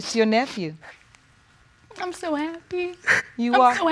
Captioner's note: crying